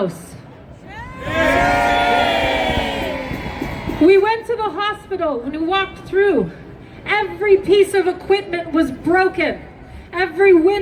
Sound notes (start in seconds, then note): 0.5 crowd